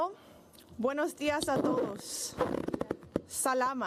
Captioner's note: spanish